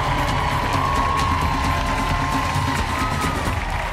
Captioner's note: cheering, applause